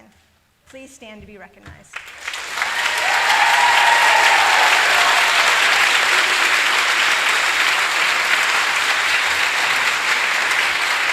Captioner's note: applause